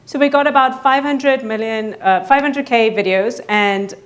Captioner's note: none